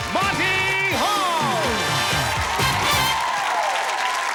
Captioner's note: audience applause